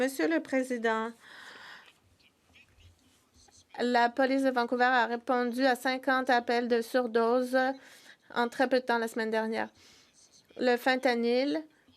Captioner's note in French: voix de l'interprète